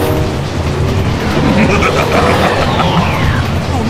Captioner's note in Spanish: Se Ríe